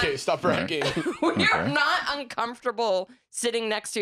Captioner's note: laughing